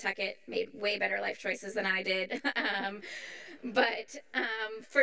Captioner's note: chuckles